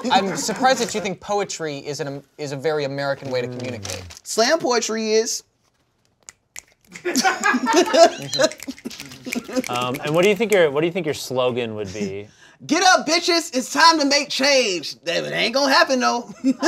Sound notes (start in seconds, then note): 6.3 snapping